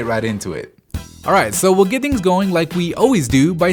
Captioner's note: voiceover